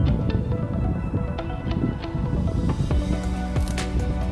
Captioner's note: wind blowing